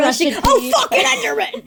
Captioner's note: laughs